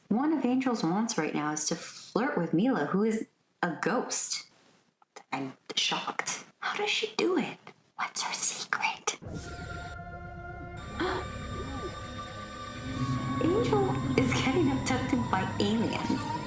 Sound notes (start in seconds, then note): 9.9 alien abduction sounds - pretty self explanatory TBH; 11.0 incredulous gasp followed by open-mouthed gawk